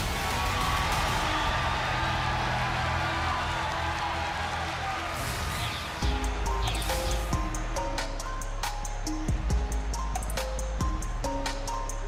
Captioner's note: crowd cheers